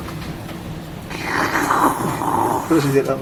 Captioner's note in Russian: звук присасывания